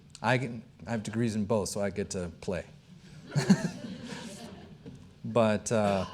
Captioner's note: chuckling